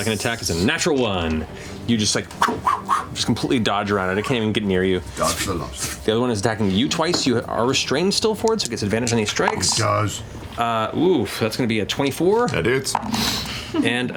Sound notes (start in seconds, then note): 2.3 whipping noises